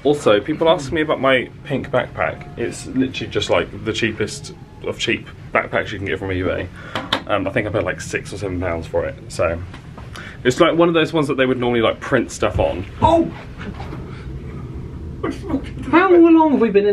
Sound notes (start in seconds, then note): 13.0 yelps